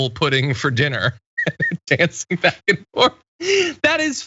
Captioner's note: laugh